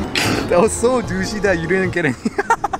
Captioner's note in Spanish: risas